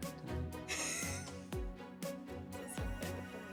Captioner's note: laughing